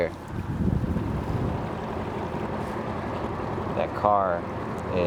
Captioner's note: motor droning; tense music continues